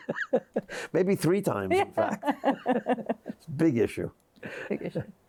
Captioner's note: chuckles; laughs; both laughing